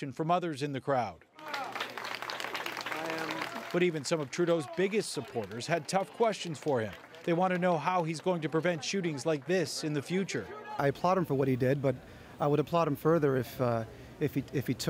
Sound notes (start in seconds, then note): 1.3 applause